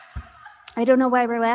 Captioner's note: crowd laughing